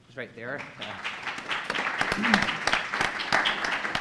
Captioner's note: applause